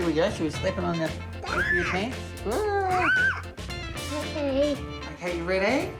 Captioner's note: squeals